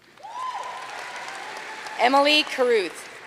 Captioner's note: audience cheering and applauding